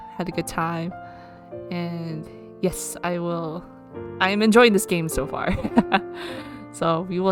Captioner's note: laughs